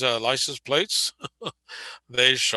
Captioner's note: laughing